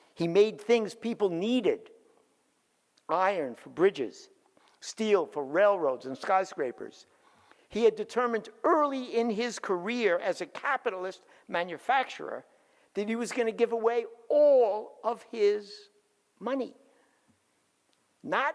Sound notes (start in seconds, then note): none